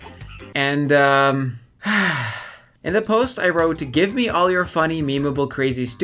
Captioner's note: sigh